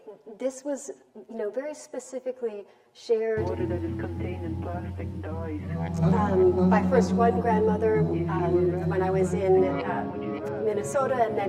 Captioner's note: vibrating sound begins